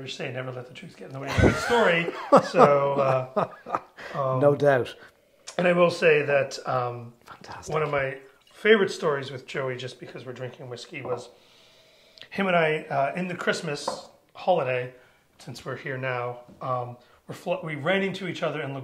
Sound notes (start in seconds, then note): 1.2 laughs